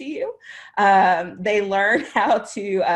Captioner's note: laughter